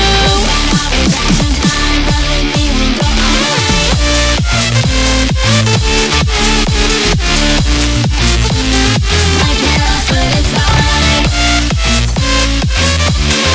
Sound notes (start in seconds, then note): 9.8 tuuuuun